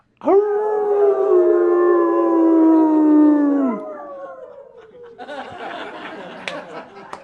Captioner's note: laughter